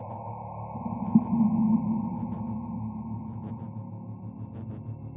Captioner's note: distorted chilling tone